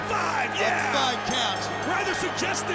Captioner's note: bell rings